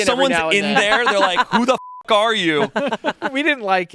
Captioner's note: beep